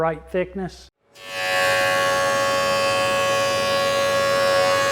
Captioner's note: drilling